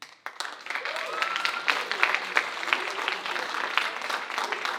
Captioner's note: audience applauding